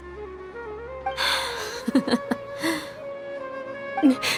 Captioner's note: sigh